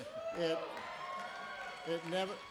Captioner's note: applause